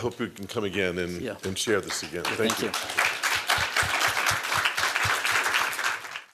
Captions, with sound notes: I hope you can come again and share this again. Thank you. [applause]